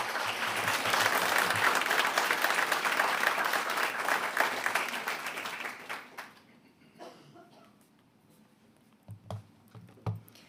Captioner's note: a pplause